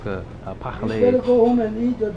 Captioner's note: french